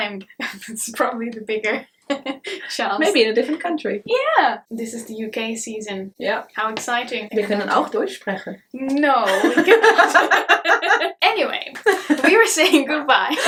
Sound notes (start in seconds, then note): 7.9 speaks another language; 9.2 both laugh